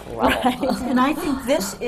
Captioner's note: laughs